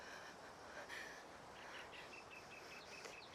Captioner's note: Riley panting